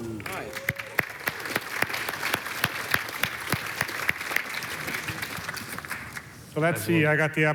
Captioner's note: applause